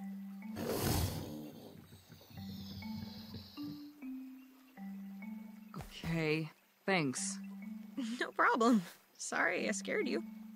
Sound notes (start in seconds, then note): 0.5 crocodile huffs and growls